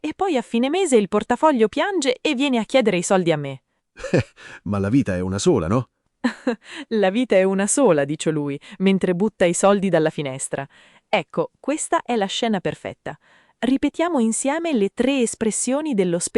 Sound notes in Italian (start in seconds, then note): 4.0 Haha; 6.4 Haha